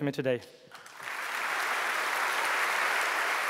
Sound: applause

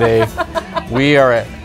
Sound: laughing

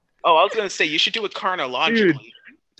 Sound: laughs; groans

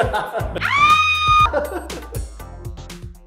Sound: screaming

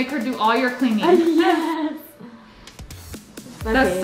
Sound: laughs

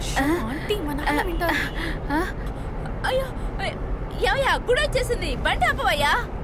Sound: none

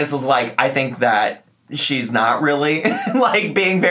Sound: laughs

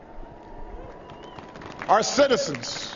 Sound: applause

